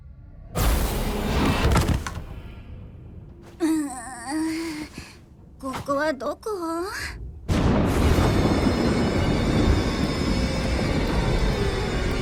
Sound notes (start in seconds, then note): 7.4 thunder crashes; 9.1 eerie music plays